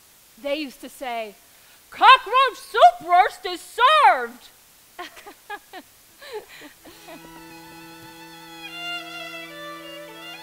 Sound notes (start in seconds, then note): 6.2 laughs; 6.9 slow music